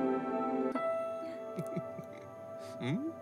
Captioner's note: Both chuckle